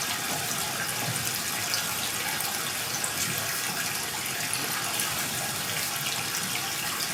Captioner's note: water trickling continues